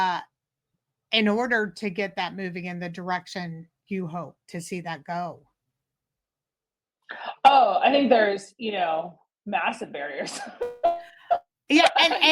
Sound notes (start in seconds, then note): 11.7 laughs